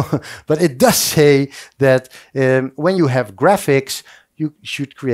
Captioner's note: laughs